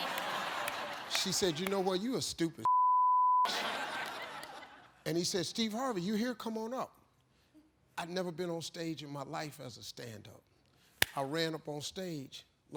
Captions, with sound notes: (laughing) She said, "You know what, you a stupid (beep)." And he said, "Steve Harvey, you here? "Come on up!" I'd never been on stage in my life as a stand-up. I ran up on stage.